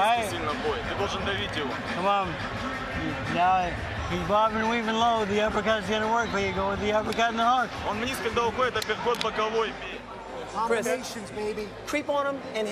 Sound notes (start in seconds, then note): 0.1 translator speaking foreign language; 8.1 continues speaking foreign language